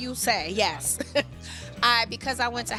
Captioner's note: chuckling